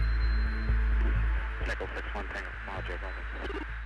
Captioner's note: man on recording